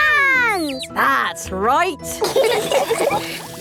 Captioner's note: all laughing